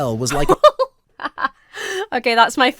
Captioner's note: laughs